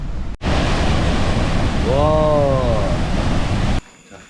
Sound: gurgling~

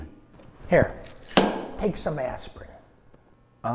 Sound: bang

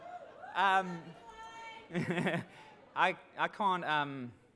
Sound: laughs

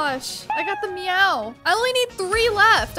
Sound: cat meowing sound

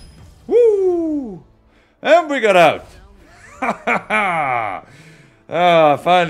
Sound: laugh

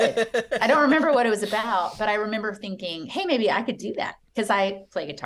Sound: laughter

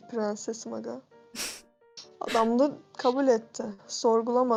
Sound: chuckles

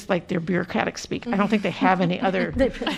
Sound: laughter

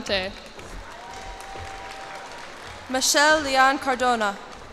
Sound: cheers and applause

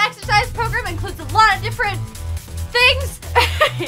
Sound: laughter

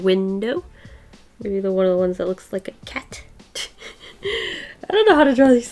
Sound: laughs

